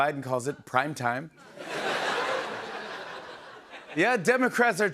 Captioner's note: laughter